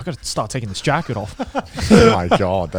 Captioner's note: laughs